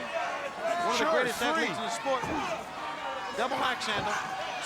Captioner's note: mumbling